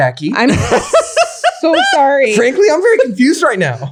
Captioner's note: laughs